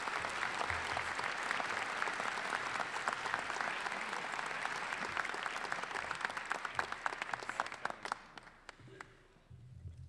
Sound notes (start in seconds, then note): 6.3 applause